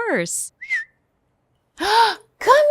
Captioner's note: whistles